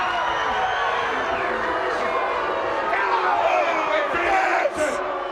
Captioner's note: audience jeers